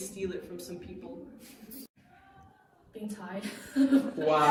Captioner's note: laughter